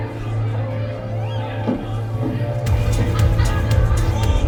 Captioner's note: people chattering